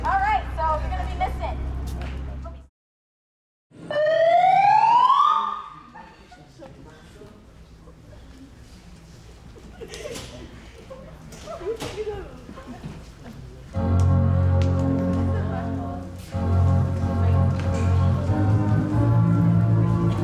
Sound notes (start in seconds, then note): 3.8 siren wails; 9.4 audience laughs; 13.7 dramatic organ music